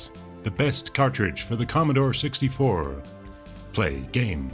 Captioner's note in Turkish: Amerikan aksanı